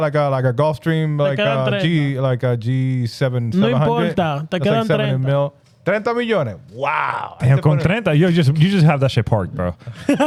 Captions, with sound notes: Like a golf stream, like a G7, 700. (Speaking In Foreign Language) Wow. You just have that shit parked, bro.